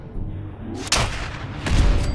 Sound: blam!

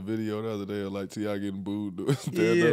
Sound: chuckles

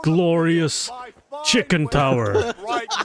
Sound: laughs his ass off

